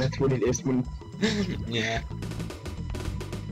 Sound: laughing

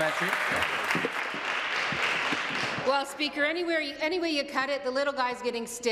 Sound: applause

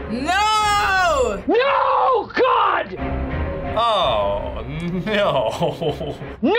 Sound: chuckles

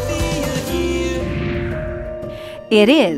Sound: swooshing

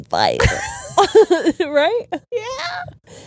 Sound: both laughing

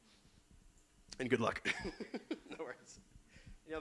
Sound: laughs

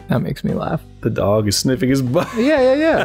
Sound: laughter

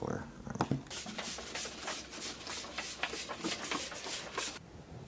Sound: tickets shuffling

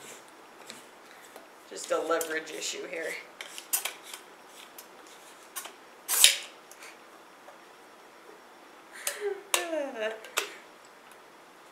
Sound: sigh

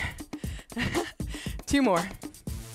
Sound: laughs

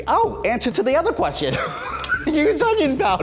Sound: laughing

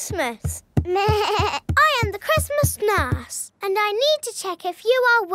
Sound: bleats

